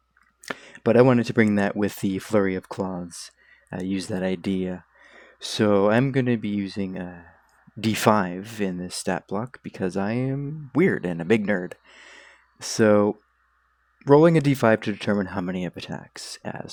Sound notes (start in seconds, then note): 0.5 inhales fly; 4.9 inhales mosquito